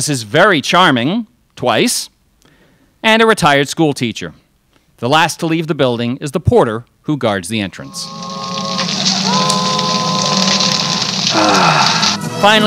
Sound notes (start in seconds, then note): 7.8 dramatic noise; 11.2 sighs